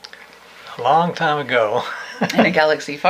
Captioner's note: he laughs